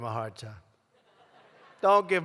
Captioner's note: laughter